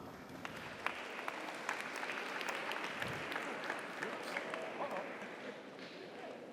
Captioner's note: audience applauds; audience cheers